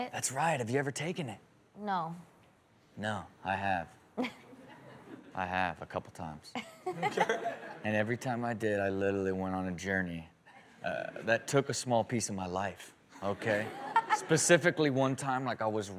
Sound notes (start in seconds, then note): 4.2 Chanel chuckles; 13.3 all snicker